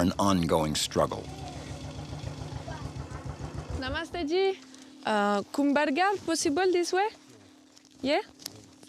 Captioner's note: non-english speech